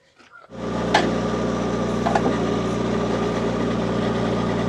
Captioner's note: engine rumbling